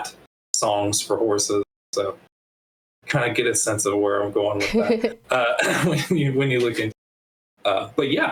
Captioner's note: laughing